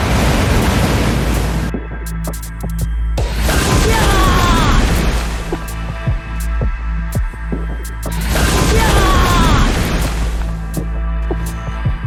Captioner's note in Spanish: Lluvia torrencial